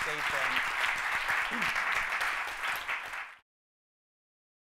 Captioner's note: audience clapping